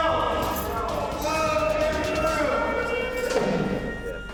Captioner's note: officers chattering